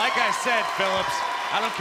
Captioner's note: crowd cheering